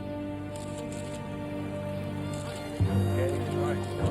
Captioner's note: dramatic music; cameras clicking